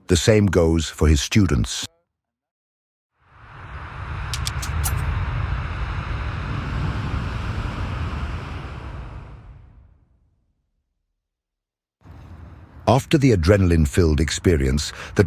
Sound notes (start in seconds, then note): 4.3 logo clicks; 7.1 wind rustling